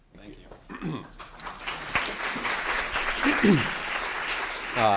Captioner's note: applause